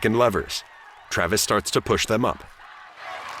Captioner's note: cheers and applause